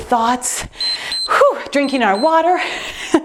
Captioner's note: timer beeps; sighs; laughs